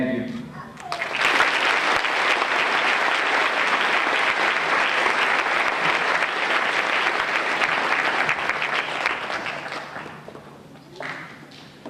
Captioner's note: applause